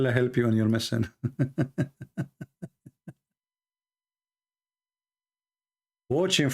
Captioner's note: Ketawa